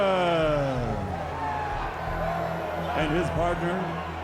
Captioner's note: crowd roaring